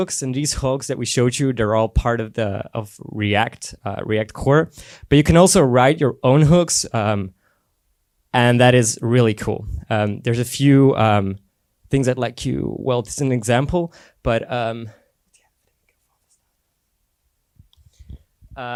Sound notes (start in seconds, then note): 14.5 whispers